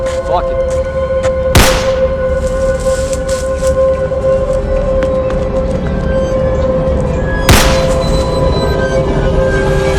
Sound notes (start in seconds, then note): 1.5 gun Shot; 7.5 gun Shot